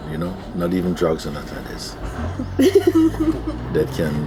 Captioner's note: laughter